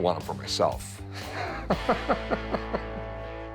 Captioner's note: laughs